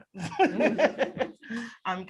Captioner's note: laughter